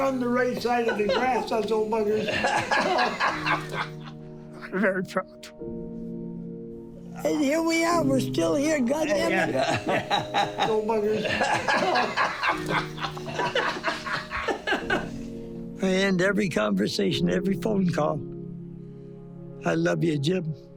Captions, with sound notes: - Running the race out of the grass, us old buggars. - I'm very proud. - And here we are, we're still here, God damn it. (laughing) - Old buggars. (laughing) - I end every conversation, every phone call, I love you, Jim.